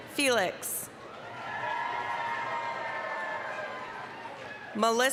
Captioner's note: applause, cheering